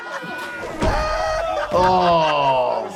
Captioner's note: Jackass crew laughing hysterically